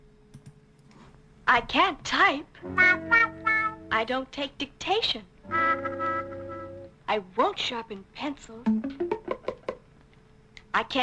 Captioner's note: woman talks